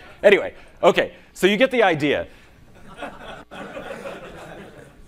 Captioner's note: laughing